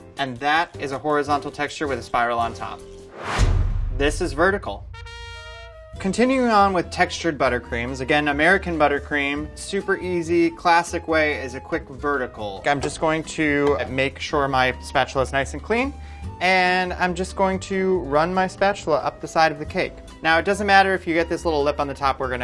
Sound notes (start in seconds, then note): 3.0 whooshing; 4.8 trumpet blares